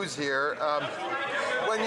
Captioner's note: some Applause